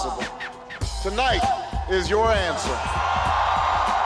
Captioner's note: Aclamaciones y aplausos